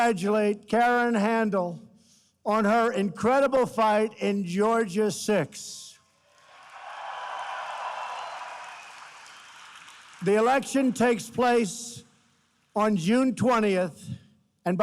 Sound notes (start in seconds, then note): 6.2 applause